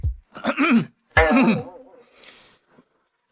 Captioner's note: cough cough